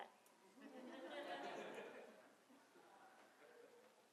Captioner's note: laughter